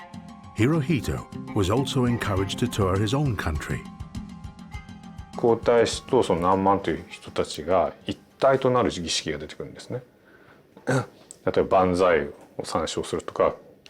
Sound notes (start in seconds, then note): 5.1 speaking in Japanese